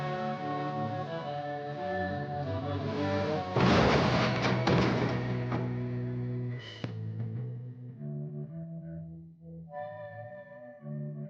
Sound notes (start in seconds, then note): 3.4 cars crashing; 7.1 rock music continues